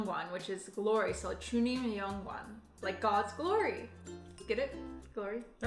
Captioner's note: speaking Korean